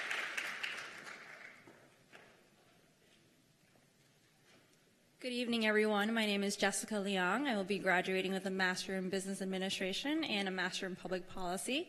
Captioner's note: cheers and applause